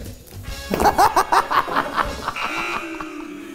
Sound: laughs; buzzer, audience booing

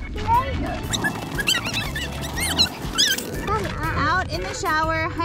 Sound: fast forward talking

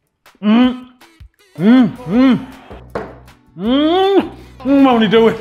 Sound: excitedly shouting

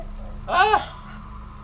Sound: shrieks

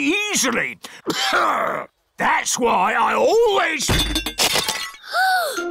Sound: clears throat; peppa gasps

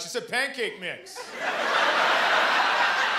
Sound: laughter

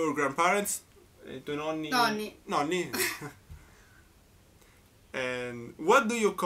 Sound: explaining in italian

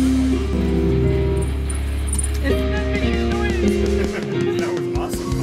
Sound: sliding

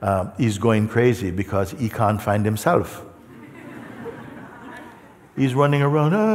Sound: laughter

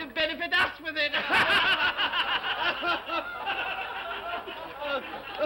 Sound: all laugh

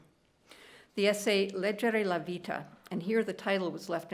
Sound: speaking italian

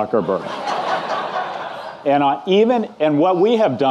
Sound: audience laughing

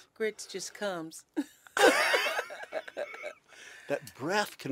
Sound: laughter

